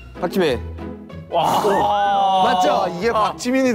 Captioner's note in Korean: 정답을 아는 자들의 탄식